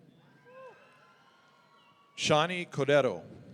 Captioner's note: audience cheering